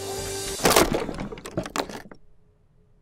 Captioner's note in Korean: 나무 부서지는 소리